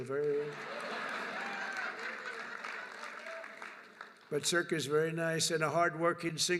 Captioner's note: laughter and applause